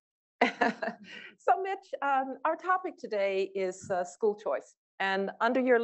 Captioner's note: laugh